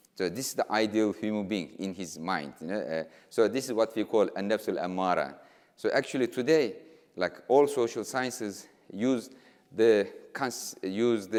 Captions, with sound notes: So this is the ideal of human being in his mind, you know, so this is what we call (speaking in foreign language). So actually today, like all social sciences,